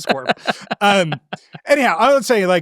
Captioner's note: laughing